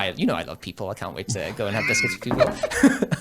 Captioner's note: laughs